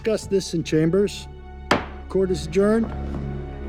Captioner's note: gavel bangs